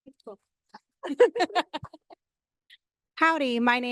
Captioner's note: laughing